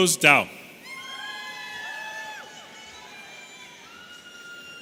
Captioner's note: audience cheering